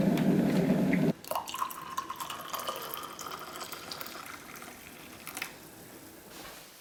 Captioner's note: kettle boiling; water Pouring